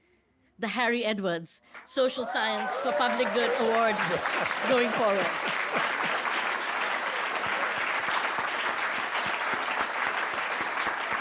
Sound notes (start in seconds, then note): 4.2 audience clapping; 5.4 Harry laughs